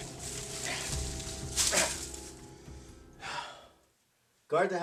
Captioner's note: shaking leaves; sigh; grunt